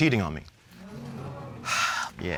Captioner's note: audience groans